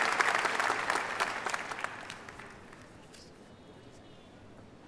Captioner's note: applause